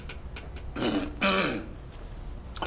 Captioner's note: clears throat